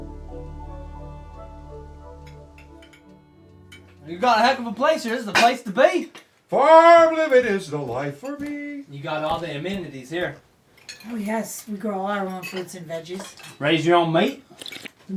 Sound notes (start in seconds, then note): 2.6 utensils clinking; 14.4 Buck slurping